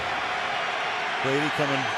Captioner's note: crowd cheering